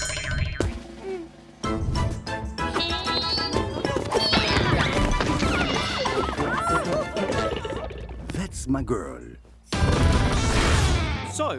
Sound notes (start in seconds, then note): 0.8 drum roll; 1.4 victorious music; 3.4 grunts; 5.3 crashing